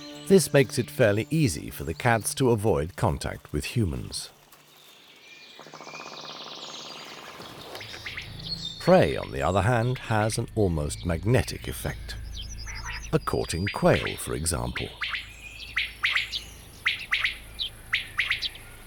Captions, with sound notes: This makes it fairly easy for the cats to avoid contact with humans. Prey, on the other hand, has an almost magnetic effect. A courting quail, for example. [quail calls]